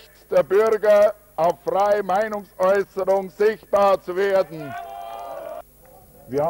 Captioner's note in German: Bravo-Rufe